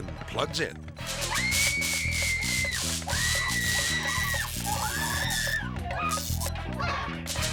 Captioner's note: electricity buzzing; person screaming